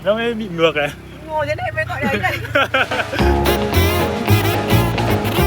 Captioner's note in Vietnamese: tiếng cười